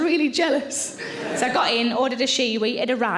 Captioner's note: audience laughing